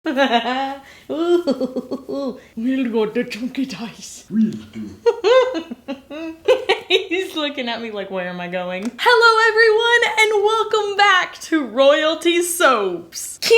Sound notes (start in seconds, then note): 1.1 laughing; 2.9 baby talk; 4.4 laughing